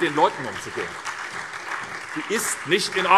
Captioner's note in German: Beifall SPD